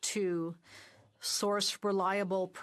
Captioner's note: speaking French